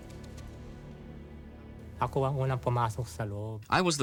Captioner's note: non-english speech